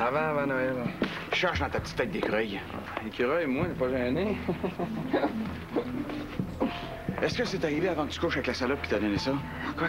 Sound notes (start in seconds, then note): 4.2 Rire